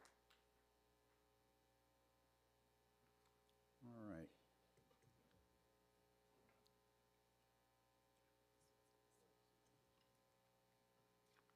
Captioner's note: applause